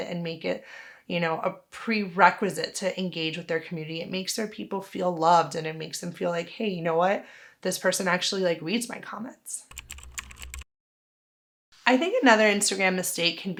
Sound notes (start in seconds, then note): 9.7 keyboard clicking